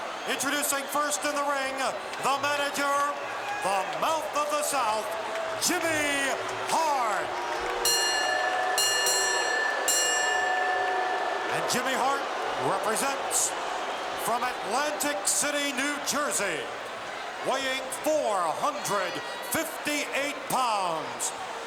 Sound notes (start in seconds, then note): 6.9 bell ringing; 8.0 crowd booing